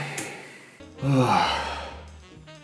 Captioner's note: sigh